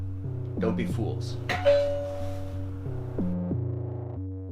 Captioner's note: door bell rings